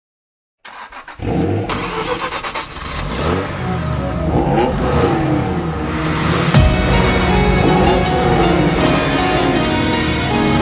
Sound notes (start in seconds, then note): 0.6 engine starts; 4.5 engines revving; 6.5 revving continues